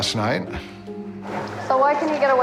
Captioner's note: instrumental Music; sighs